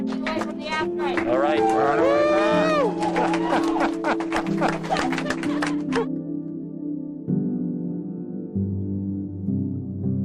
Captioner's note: cheering